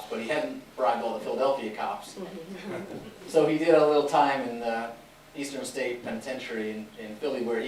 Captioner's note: laughter